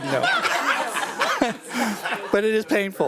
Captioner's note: attendees laughing